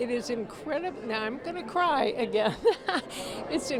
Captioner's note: chuckles